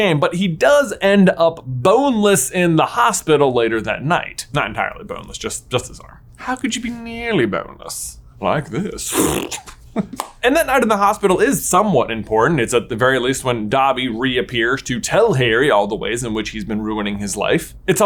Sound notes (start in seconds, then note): 9.0 blowing a raspberry